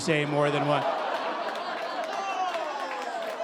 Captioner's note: audience applauding